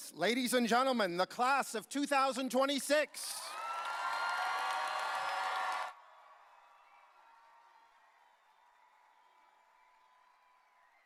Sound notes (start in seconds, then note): 3.3 audience cheering